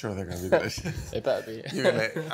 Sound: laughs

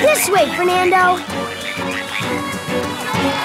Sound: croaking; cheering

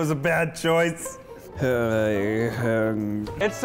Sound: groaning

